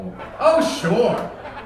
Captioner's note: audience laughing